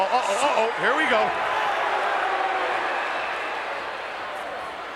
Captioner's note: crowd yelling